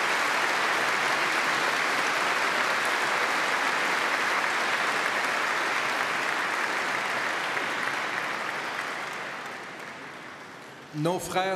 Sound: applause

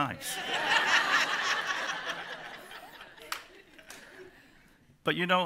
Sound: laughter

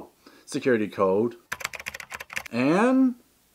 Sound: typing

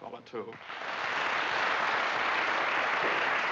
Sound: audience applauding

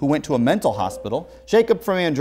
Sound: beeping

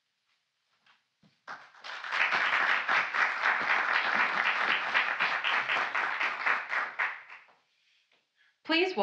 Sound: applause

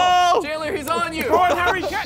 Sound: contestants laughing

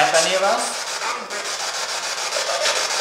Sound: static

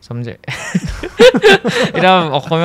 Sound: laughs

